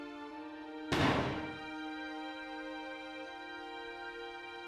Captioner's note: fires gun